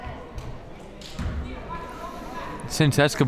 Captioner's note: crowd members talking